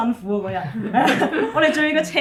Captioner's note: laughter